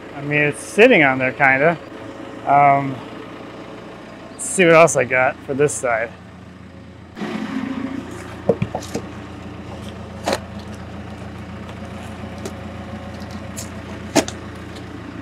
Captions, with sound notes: I mean, it's sitting on there kind of. Let's see what else I got for this side. (engine whirring)